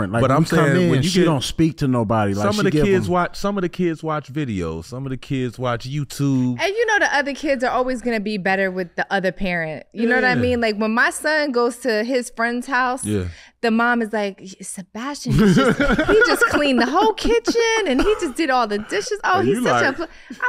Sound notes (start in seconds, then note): 15.3 laughing